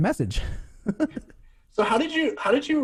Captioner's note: laughs